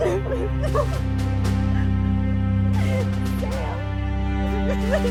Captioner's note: woman sobs